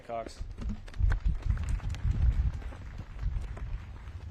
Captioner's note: audience claps